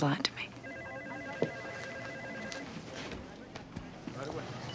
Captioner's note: phone rings